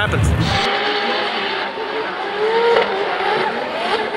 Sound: engine revving

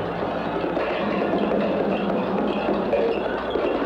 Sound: klanging

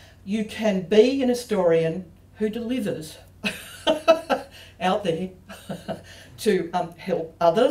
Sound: laughs

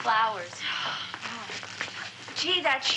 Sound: sighs

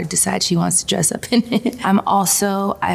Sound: chuckles

